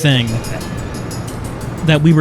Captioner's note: faint laughter